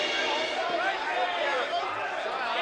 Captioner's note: yelling